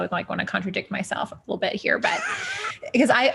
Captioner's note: chuckles